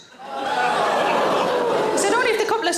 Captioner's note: audience groans